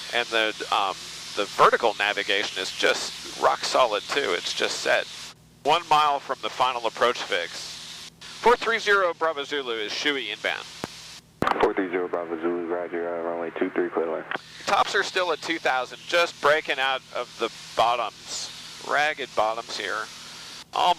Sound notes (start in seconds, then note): none